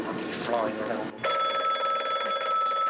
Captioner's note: phone ringing